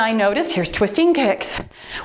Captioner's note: timer beeps